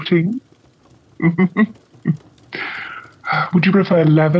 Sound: Holmes laughs

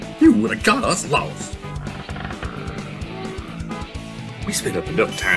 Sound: LLOYD growls under breath, squeezes steering wheel 'til it creaks

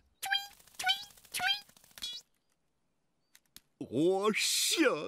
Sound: flapping

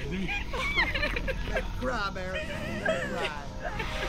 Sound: crying

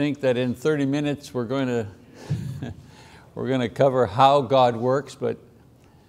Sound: chuckles

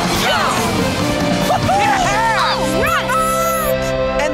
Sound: cheering

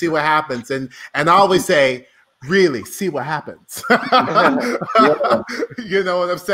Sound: laughs

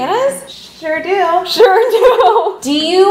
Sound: laughs

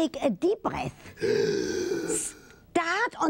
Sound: breathes in

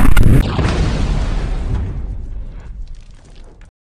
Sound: explosion

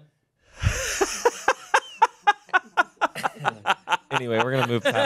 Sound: laughs

